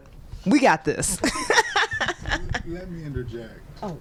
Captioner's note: laughter